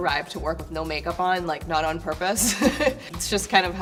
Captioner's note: laughing